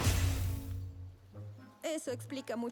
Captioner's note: zap